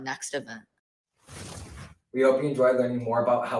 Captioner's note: whooshing